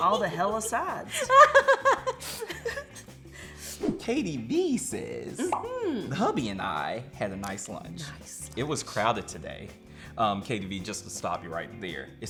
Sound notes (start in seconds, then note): 0.1 laughs